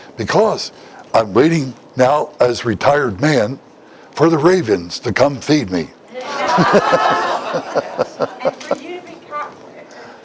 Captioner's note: Смех